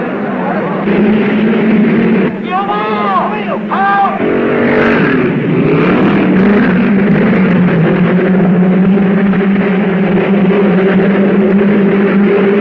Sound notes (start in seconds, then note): 0.0 crowd murmuring; 4.7 cars revving